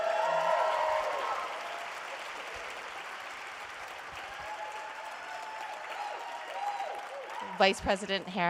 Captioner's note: applause